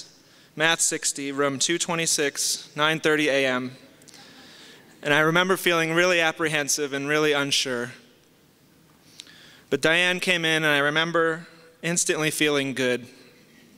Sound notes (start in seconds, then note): 4.1 soft laughter